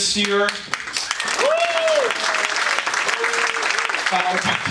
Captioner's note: audience applauding